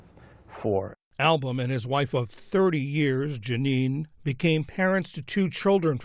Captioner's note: voice-over